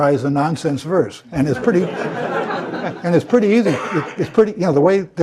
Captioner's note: laugh